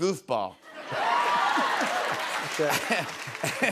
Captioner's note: laughter, applause